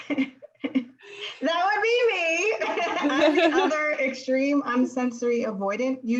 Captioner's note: laughter